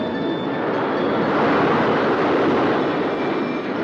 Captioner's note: air whooshing; cheerful music